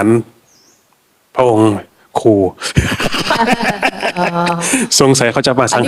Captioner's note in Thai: เสียงหัวเราะ